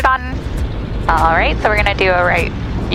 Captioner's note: plane engine whirring